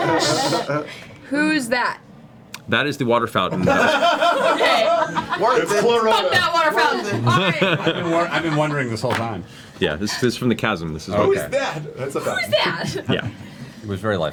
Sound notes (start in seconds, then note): 3.6 all laugh